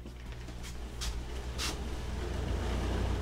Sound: ac hums

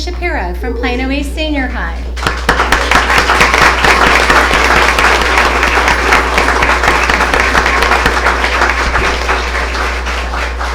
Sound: applause

